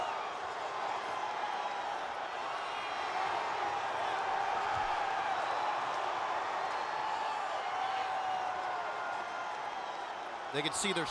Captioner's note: crowd cheering